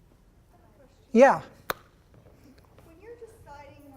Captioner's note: voiceover